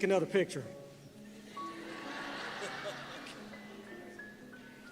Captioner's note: laughter